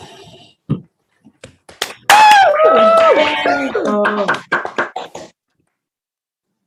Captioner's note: applause